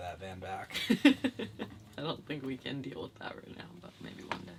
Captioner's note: laughing